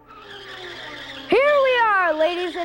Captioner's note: tires screeching